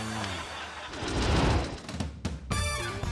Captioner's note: audience laughing; air whoosh; lively music